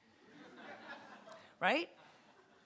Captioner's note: audience laughter